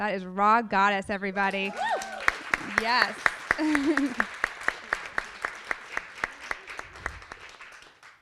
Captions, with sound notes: That is Rha Goddess everybody. - Woo! (audience applauding) - Yes. (laughs)